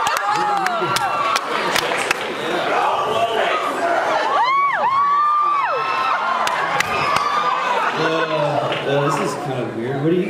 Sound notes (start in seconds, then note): 0.0 cheers; 1.3 cheers; 6.1 cheers